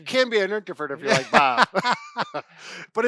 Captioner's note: Bob and Brad laugh